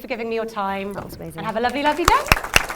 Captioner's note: applause